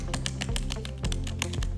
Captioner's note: typing